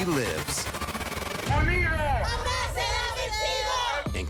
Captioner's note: chanting